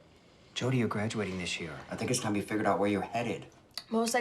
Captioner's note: none